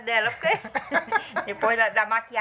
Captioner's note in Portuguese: risadas